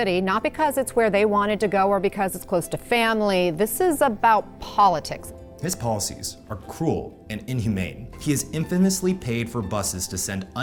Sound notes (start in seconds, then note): none